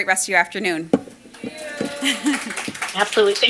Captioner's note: applause